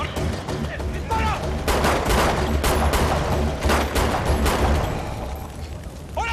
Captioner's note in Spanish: Disparos